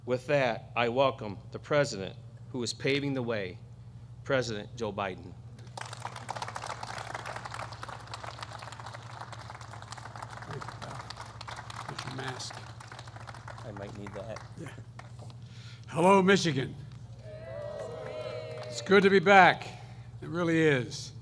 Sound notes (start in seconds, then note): 5.6 applause; 18.0 applause